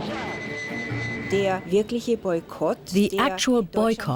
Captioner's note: speaking german